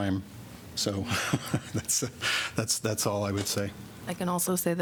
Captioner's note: laughter